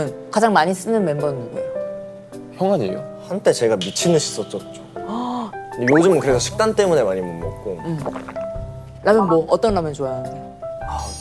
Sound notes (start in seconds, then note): 7.7 gulp